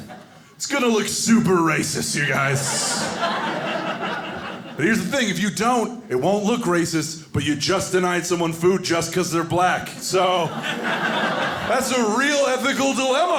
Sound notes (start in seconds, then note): 2.2 audience laughing; 10.0 audience laughing